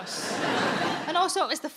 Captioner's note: audience laughing